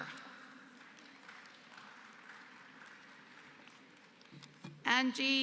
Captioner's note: applause